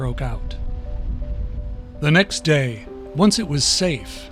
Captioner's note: fire roaring